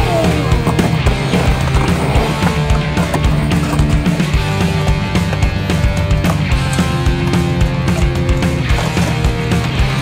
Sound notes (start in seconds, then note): 0.1 skateboard scraping